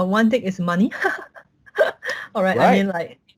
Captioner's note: laughs